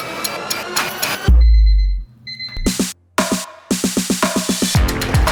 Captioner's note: alarm clock beeping